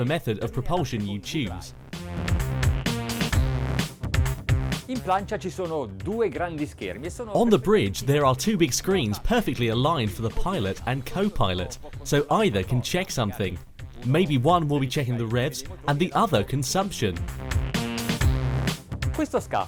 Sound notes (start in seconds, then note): 1.8 electronic music; 5.0 man speaks in foreign language; 17.4 electronic music; 19.4 man speaks in foreign language